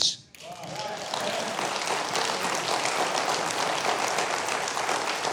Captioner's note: audience applauding